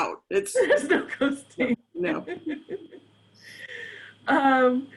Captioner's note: laughs